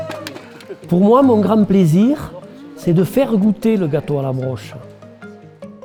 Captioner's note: people cheering; speaking in foreign language